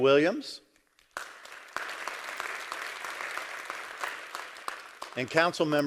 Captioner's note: crowd applause